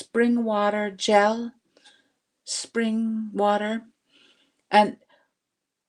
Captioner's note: speaking Indigenous language